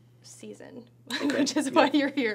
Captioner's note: laughs